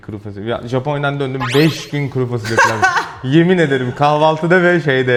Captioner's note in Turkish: kahkaha